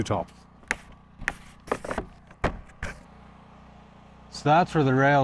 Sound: board clattering

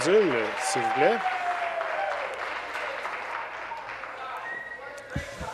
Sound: applause; cheers

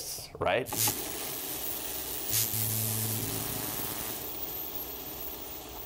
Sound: electricity crackles

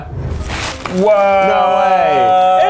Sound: paper tearing

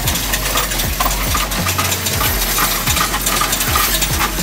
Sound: coins rattling

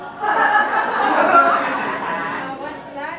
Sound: audience laughing

